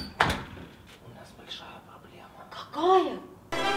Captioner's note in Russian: Шёпотом